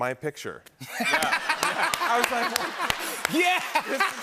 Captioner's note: laughter